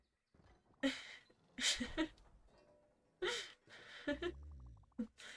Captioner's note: giggles